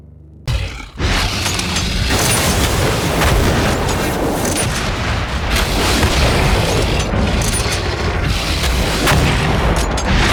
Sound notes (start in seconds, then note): 1.3 demon roars; 5.9 rocket launcher booming